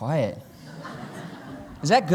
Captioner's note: laughter